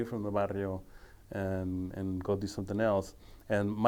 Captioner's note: speaking foreign language